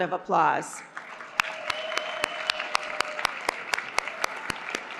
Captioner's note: applause